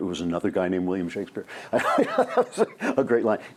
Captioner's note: laughs